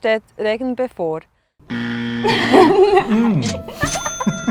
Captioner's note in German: falsch buzzer sound